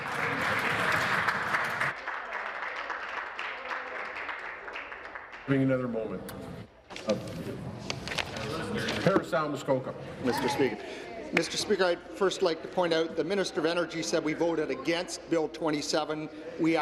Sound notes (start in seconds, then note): 2.3 applause